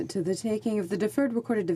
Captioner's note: speaking french